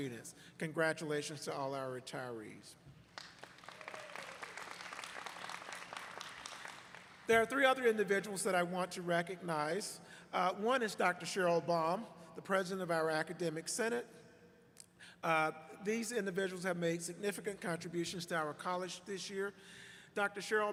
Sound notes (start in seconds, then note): 6.9 applause